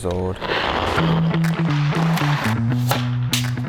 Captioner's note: skates sliding; upbeat music